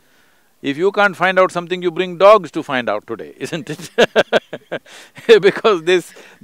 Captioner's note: laughs